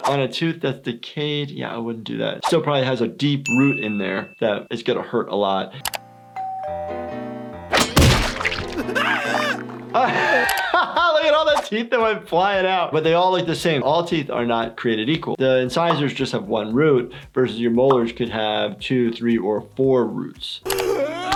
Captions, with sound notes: On a tooth that's decayed, yeah, I wouldn't do that. It still probably has a deep root in there that's gonna hurt a lot. (doorbell ringing) (Nutty screaming) (laughing) Look at all the teeth that went flying out. But they all look the same. All teeth are not created equal. The incisors just have one root. Versus your molars could have two, three or four roots.